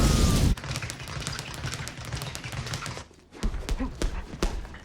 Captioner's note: punching bags rattle